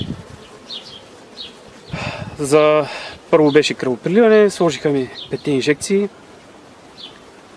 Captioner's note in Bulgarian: Въздишка